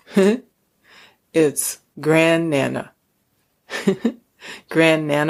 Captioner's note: chuckles